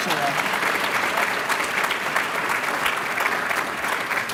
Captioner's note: applause